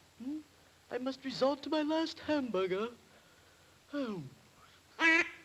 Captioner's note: sighs; duck quacks